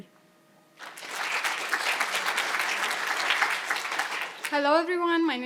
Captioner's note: audience applauding